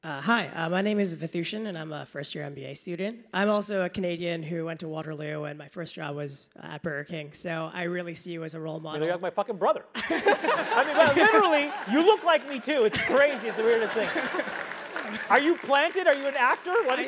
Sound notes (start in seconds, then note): 10.0 laugh; 14.5 applause